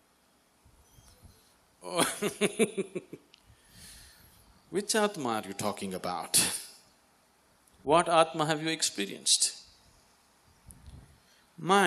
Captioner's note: laughs